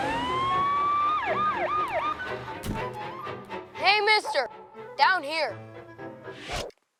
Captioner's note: sirens